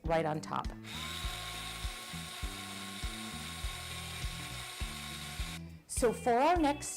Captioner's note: drilling